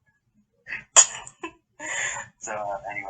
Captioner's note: some weird giggle snort that clips the mic again